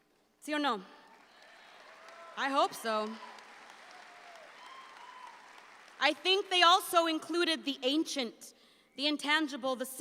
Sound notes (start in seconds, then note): 0.6 speaks in Spanish; 1.1 audience applauds